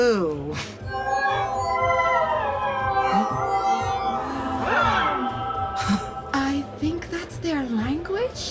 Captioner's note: A Boolarin makes a pleasant, sparkly musical lyrical tone